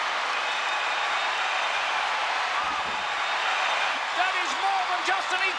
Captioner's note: crowd cheering